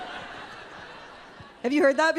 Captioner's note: audience laughing